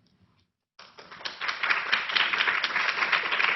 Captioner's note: applause